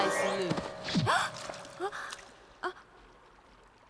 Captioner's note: gasps